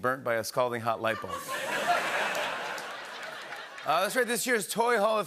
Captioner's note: laughter and applause